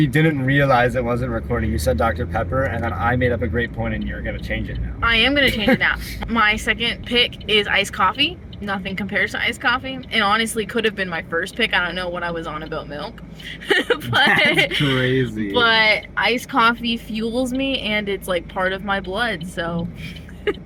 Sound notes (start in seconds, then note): 5.4 laughter; 13.4 laughing; 20.0 laughter